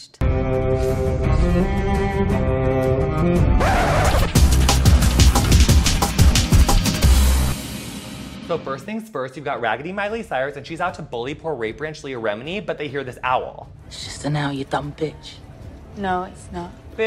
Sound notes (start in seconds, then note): 0.2 epic music; 3.6 record scratches; 4.6 upbeat electronic music